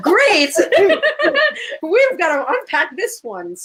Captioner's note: laughter